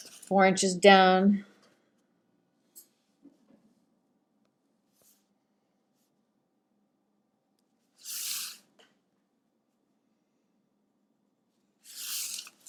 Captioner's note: measuring in silence